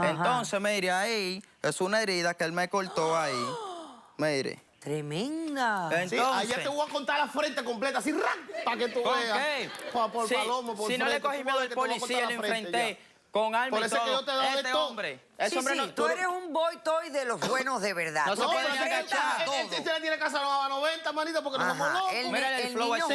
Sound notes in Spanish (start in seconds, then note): 4.8 Exclamaciones; 10.3 Hablan al unísono; 18.6 Hablan al unísono